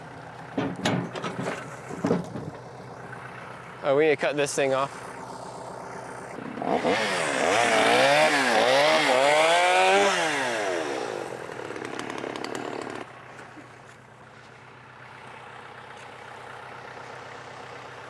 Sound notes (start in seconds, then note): 5.5 sawing